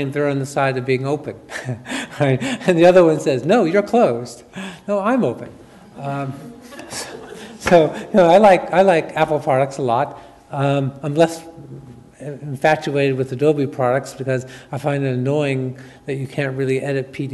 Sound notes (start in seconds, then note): 1.5 chuckles; 6.4 audience chuckles